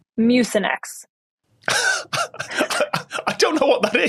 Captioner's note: wheezes